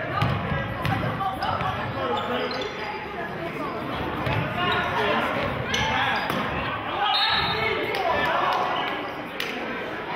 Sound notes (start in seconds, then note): 1.1 yelling; 7.1 whistling